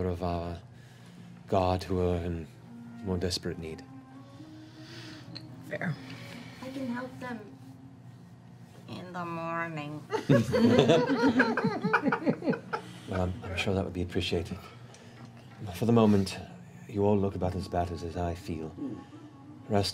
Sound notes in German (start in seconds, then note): 10.2 Lachen